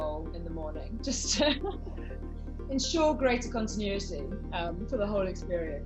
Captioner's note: laughs